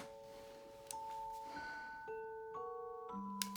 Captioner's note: sighs